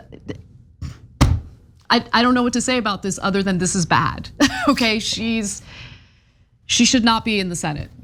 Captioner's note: laugh